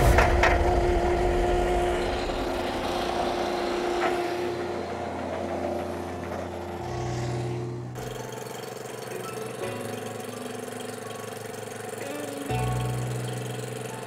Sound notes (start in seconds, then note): 7.9 gentle music; 8.4 spreader engine whirring